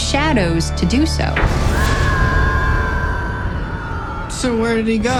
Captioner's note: thunder crashes; distant scream